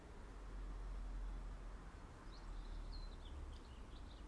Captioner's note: birds chirping